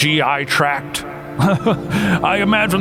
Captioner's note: giggles